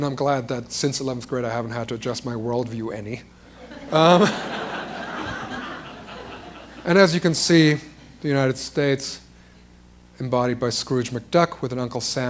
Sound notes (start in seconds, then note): 3.5 laughter